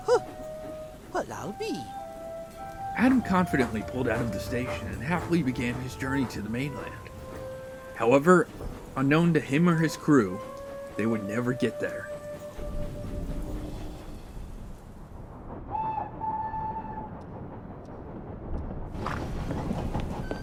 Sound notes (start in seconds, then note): 15.7 engine whistles; 18.3 door creaks open